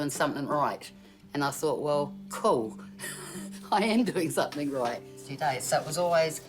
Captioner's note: laughs